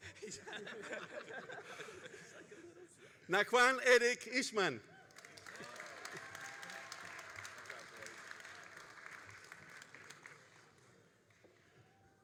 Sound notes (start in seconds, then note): 0.1 graduates laughing; 5.0 all applauding